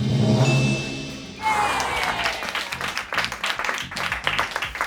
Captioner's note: bell dings; audience applauds